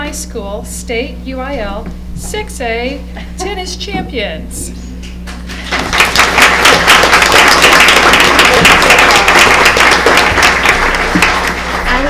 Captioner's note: applause